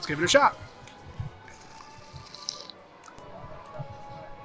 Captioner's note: slurping drink